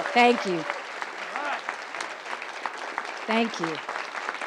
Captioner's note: audience applause